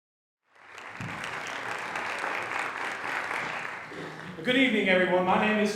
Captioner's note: applause